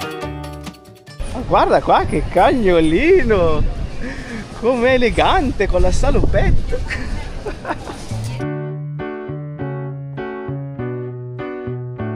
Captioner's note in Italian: risate